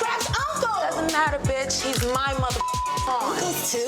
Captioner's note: beep